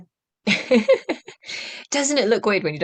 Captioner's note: laughter